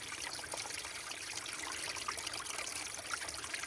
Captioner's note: water trickles